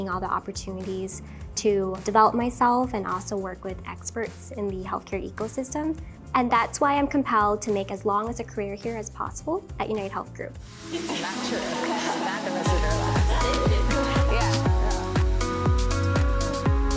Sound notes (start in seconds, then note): 11.0 chatter